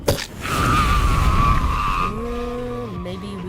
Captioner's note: scream